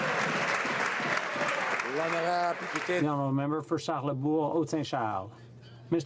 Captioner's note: some Applause